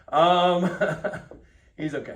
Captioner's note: chuckles